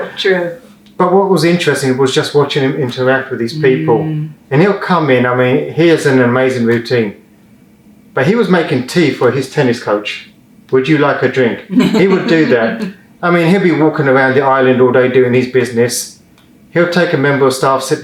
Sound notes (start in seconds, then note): 11.7 laughs